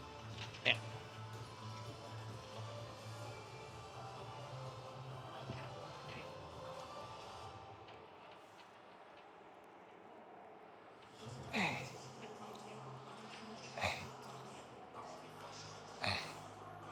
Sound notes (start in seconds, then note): 8.1 grunting